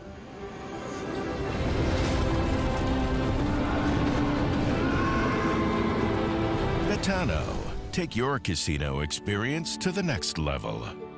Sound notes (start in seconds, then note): 0.1 ethereal music; 4.7 dragon screeching